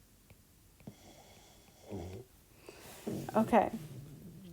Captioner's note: puppy snoring continues